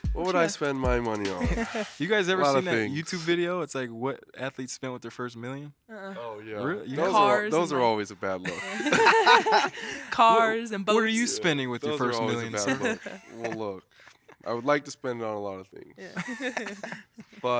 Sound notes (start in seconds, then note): 1.1 hosts laughing; 8.3 all laughing; 16.1 hosts laughing